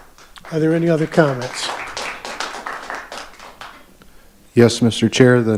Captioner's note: audience applauding